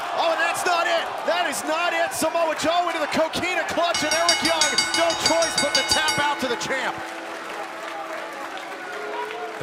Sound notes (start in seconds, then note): 3.9 bell ringing